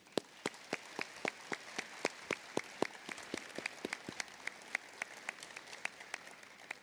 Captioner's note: applause